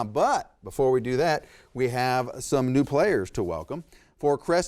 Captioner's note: none